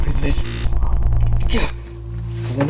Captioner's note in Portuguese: Distorção de áudio